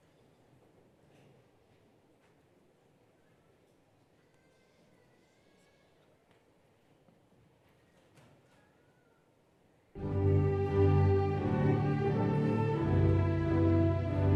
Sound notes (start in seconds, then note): 4.2 child vocalizing; 9.9 joyous orchestral music